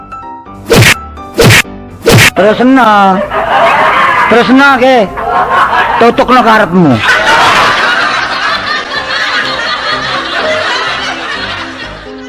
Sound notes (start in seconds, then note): 10.2 laugh